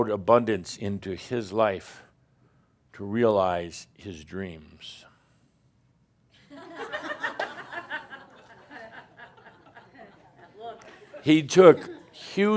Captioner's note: another stink eye and a few chuckles